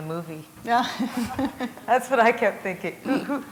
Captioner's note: chuckle